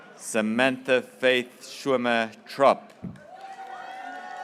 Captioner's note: graduates cheering